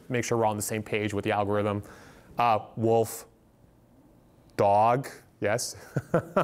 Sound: laughs

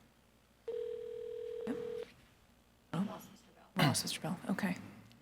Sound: phone ringing

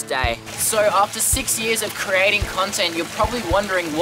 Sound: creek water sound

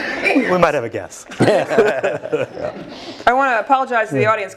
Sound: laugh

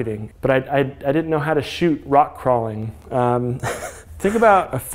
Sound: laughs

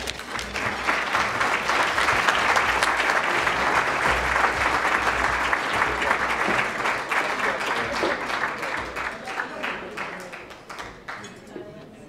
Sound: applause

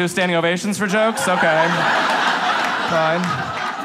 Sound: audience laughs

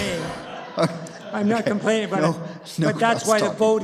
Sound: laughter

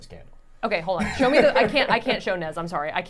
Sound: laughing

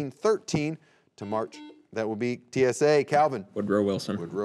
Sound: buzzer beeping

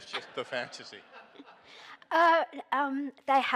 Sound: audience laughing

